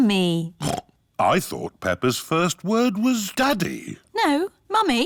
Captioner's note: snorts